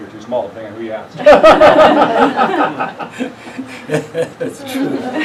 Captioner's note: laughing